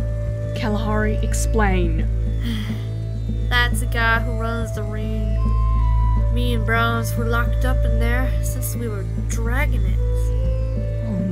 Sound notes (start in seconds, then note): 3.2 sighs